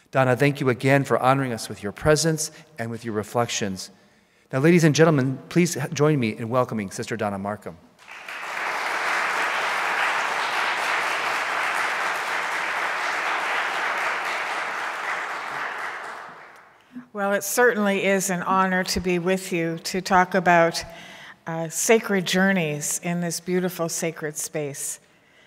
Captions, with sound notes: Donna, thank you again for honoring us with your presence, and with your reflections. Now, ladies and gentlemen, please join me in welcoming Sister Donna Markham. (applauding) - Well, it certainly is an honor to be with you to talk about sacred journeys in this beautiful sacred space.